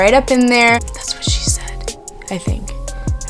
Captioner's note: whispering